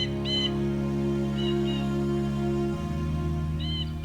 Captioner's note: bird chirping